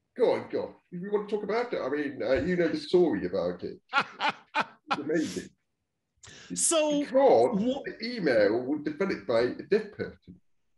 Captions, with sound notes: - Go on, go on. If you wanna talk about that already, you know, the story about it. (laughing loudly) - So. - It's amazing because the email was developed by a deaf person